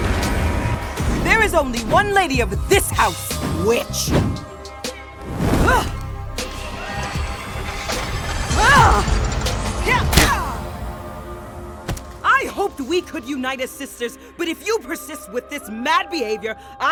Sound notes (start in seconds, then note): 5.2 fire blazes; 6.8 machine humming; 9.8 Califia shouts